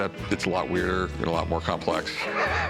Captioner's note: laughter